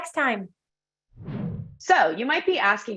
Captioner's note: graphics whooshing